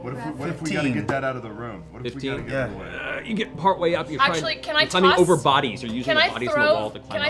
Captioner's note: grunts